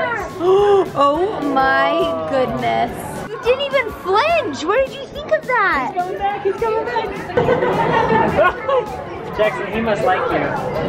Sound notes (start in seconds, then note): 7.4 laughs